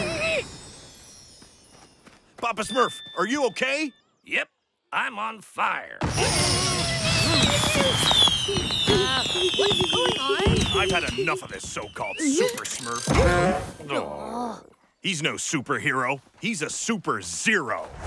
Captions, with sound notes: Papa Smurf, are you okay? Yep, I'm on fire. [fireworks crackling] Uh, what's going on? I've had enough of this so called Super Smurf. [sighing] He's no superhero, he's a super zero.